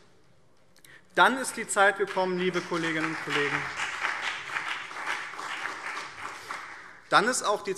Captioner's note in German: Beifall BÜNDNIS 90/DIE GRÜNEN und CDU